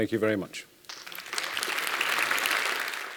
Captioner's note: applause